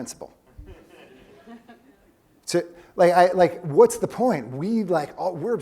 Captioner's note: laugh